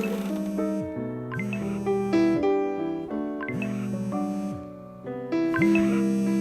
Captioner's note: phone vibrating